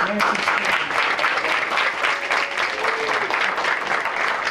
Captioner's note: applause